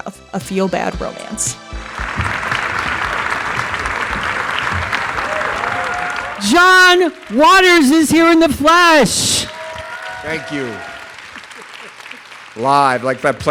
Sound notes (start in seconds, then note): 1.4 theme music plays; 6.4 audience applause